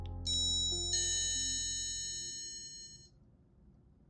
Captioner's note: doorbell ringing